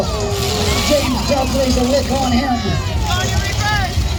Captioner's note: crowd cheers